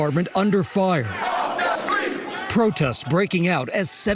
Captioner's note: chanting "no peace"